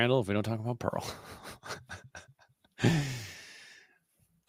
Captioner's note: laughter